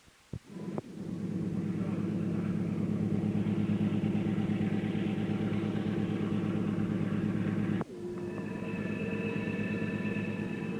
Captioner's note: sound of train moving